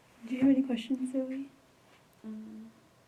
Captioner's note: pause